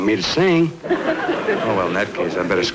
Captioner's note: audience Laughing